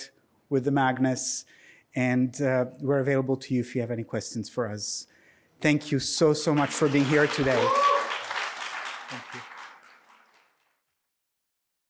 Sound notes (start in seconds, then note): 6.2 applause